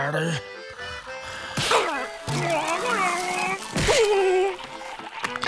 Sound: groaning

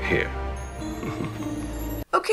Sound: laughs seductively

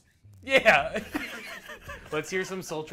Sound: both laugh

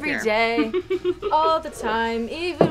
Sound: chuckling

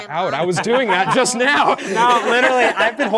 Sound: participants laughing

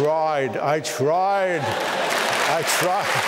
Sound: applause

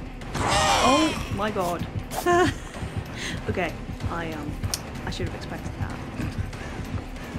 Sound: laughs

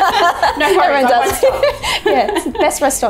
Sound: laughter

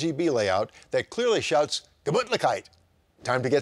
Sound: foreign language

